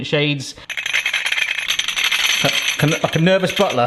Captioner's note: glass clinks